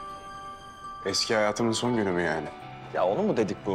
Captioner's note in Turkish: none